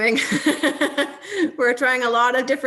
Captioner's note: laughing